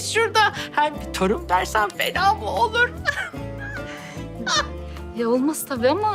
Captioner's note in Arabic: يضحك